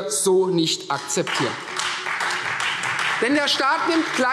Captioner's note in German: Beifall Freie Demokraten